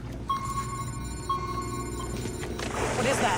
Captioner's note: beeping; splashing in lake